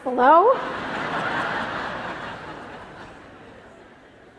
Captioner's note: laughter